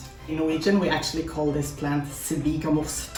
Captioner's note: speaks in Norwegian